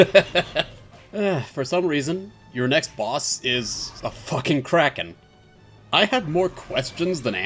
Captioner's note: laughter; chortling